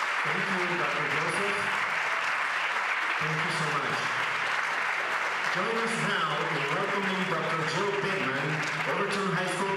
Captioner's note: applause